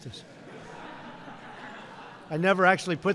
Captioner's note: laughter